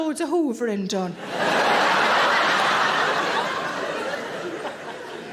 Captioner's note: audience laughing